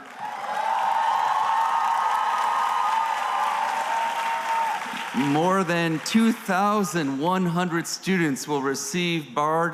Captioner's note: cheering